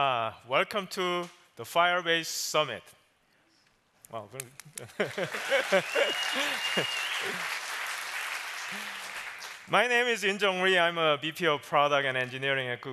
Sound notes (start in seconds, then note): 4.8 applause